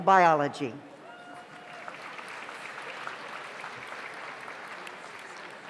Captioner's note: audience applauds